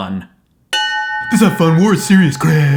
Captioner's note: bell; low mocking voice, slurring